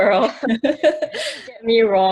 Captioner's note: laughs